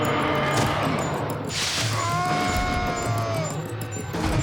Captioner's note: beeping